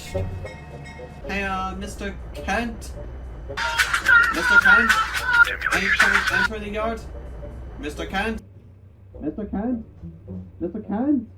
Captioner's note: blasts his horn